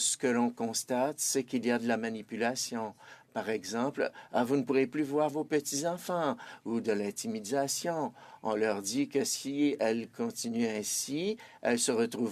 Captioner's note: speaking French